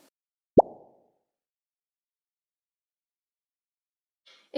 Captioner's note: bubble popping